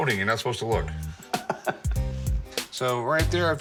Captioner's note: laughs